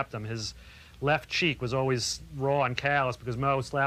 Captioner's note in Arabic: none